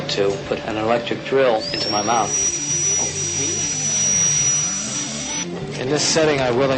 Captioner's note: drill noise